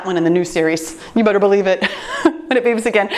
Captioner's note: laughs